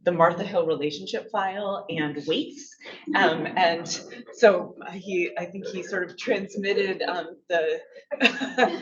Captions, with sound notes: the Martha Hill relationship file and weights. And so I think he sort of transmitted the (laughs) love